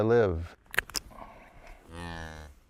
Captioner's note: snap!